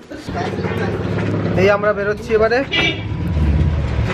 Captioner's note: car horn blows